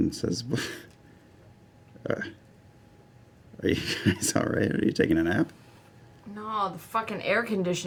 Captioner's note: laughs